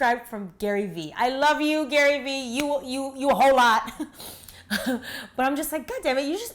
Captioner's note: laughs